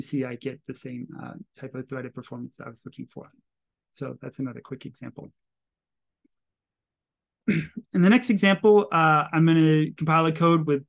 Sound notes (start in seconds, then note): 7.4 clears throat